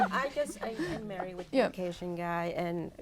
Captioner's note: laughter